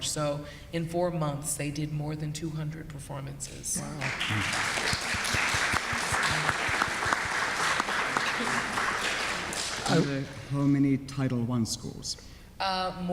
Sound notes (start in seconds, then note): 4.0 audience applauds